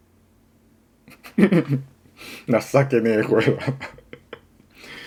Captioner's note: laughter